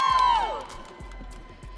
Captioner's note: audience cheering